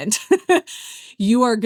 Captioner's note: laughs